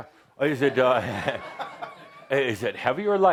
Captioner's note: laughter